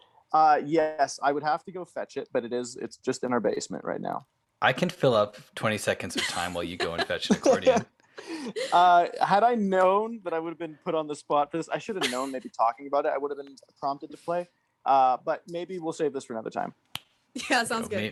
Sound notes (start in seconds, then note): 5.9 laughs